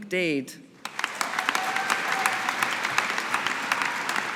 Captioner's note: audience applauding